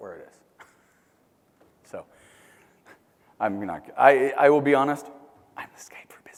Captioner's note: laugh